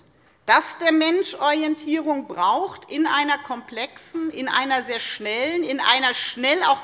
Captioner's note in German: none